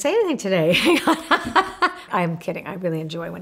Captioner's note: laughs